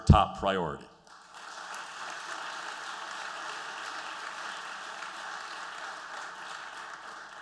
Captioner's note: applause